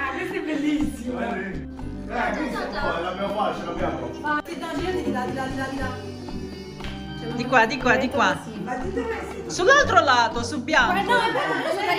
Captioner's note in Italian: Risate